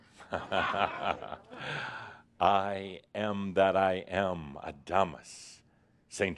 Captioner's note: Adamus chuckles